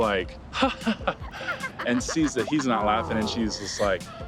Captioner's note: polite fake laugh